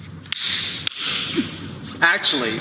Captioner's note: hand clapping